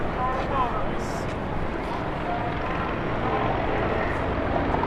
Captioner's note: helicopter whirs